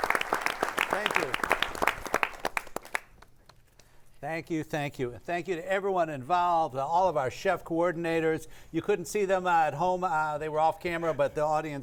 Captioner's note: all applauding